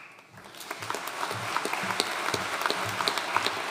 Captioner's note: audience applauding